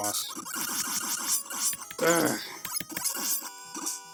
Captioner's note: aggravated grunt